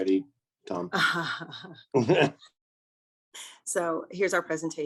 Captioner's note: laughter